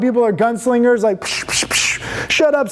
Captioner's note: hissing